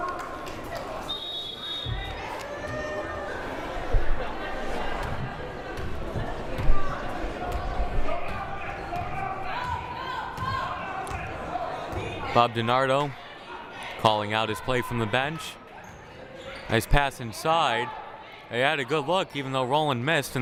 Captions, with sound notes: (whistle blaring) (crowd cheering) Bob Di Nardo, calling out his play from the bench. Nice pass inside. They had a good look even though Rolland missed,